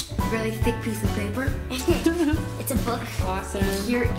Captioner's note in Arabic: يضحكون